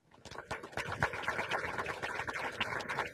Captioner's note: applause